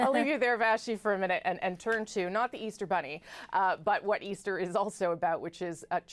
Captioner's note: laughter